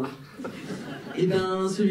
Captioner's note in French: rires